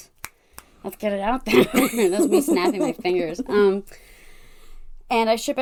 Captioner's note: snapping